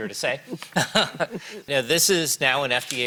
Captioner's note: chuckles